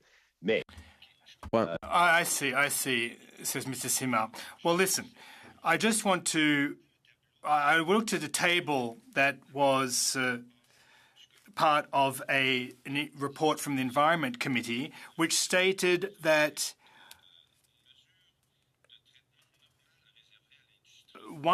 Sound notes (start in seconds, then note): 8.4 speaking French